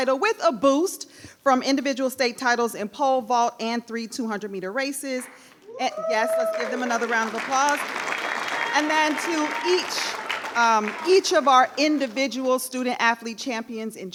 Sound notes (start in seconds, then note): 7.9 attendees applauding; 7.9 attendees cheering